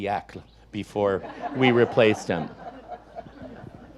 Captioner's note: audience laughs